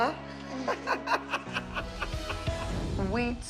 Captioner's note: Abby Lee laughing